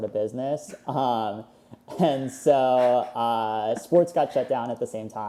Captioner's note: laughing